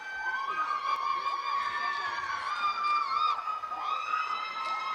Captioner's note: graduates cheering